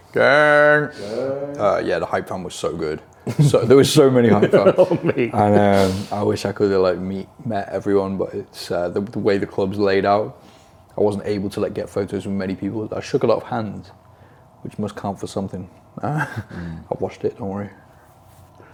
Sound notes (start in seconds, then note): 4.3 laughs